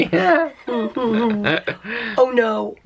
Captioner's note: chuckling